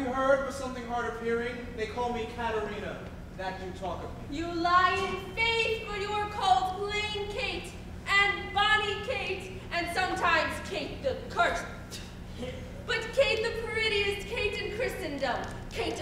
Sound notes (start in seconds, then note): 12.2 spits